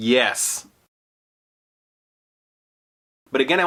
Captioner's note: silence